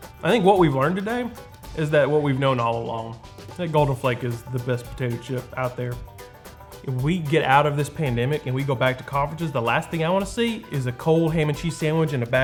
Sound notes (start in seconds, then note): none